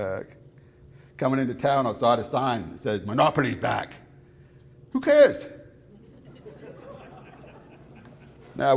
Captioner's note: laughter